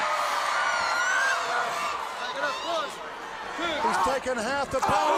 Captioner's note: crowd cheering